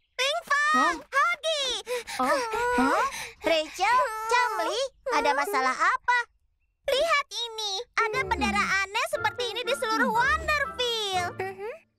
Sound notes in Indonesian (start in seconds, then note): 1.8 Chumli terengah-engah